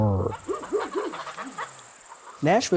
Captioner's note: chickens clucking